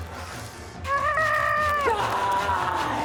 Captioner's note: saw grates; screams